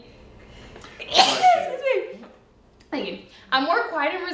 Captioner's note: sneezing